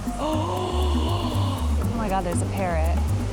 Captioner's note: gasps